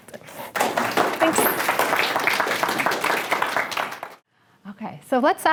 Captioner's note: applause